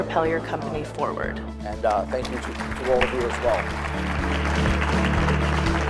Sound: clapping and music

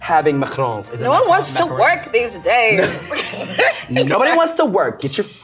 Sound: laughing

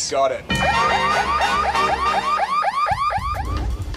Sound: siren wails

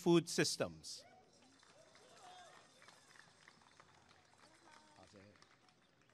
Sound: applause and cheering

